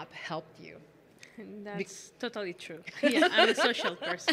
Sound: laughing

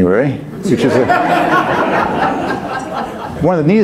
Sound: audience laughs

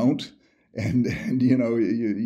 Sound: chuckles

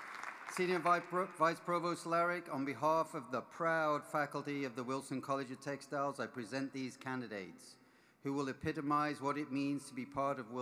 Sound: applause

